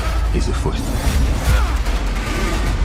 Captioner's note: grunts; dragon shrieks